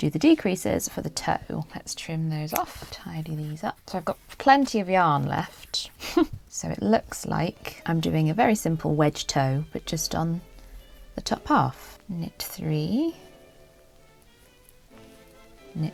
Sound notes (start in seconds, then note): 5.7 huff!